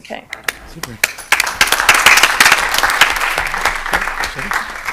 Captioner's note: applause